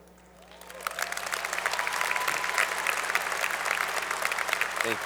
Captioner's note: applause